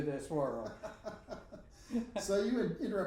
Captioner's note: both laughing